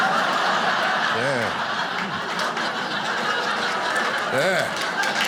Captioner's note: audience laughing